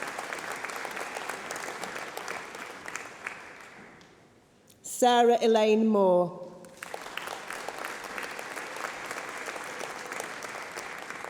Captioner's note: applause